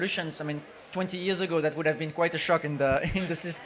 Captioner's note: chuckles